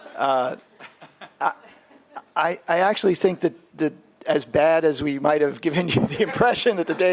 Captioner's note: laughter